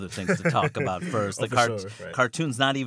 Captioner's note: laughter